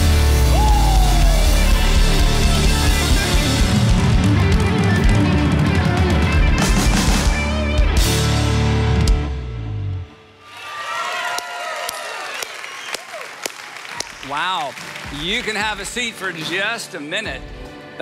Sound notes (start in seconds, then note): 0.1 upbeat rock music; 10.3 audience cheering